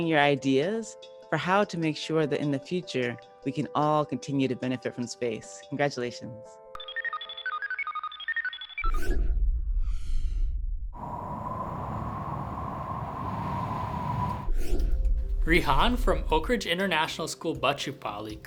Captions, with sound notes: your ideas for how to make sure that in the future, we can all continue to benefit from space. Congratulations. [satellite beeping] [whooshing] Rihaan from Oakridge International School, Bachupally